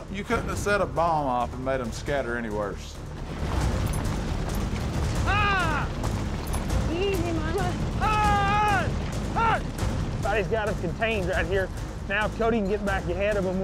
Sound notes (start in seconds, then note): 5.2 yell